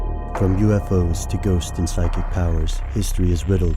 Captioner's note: voiceover